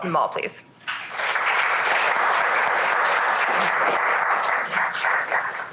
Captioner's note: applause